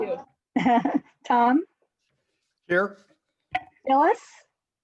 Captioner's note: laughs